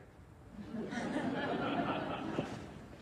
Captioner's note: audience laughs